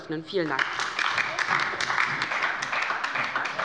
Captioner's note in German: Beifall bei der LINKEN und der SPD